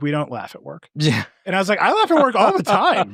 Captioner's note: laughs